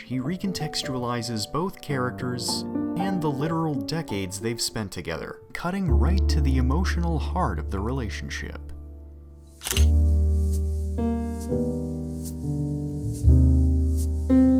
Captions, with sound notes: He contextualizes both characters and the literal decades they've spent together. Cutting right to the emotional heart of the relationship. (camera shutter) (romantic music)